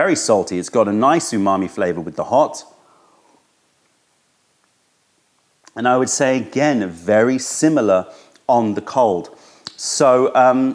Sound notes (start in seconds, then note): 4.1 sips tea